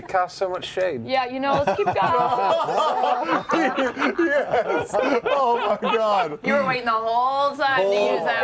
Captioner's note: laughter